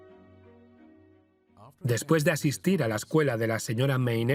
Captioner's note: voiceover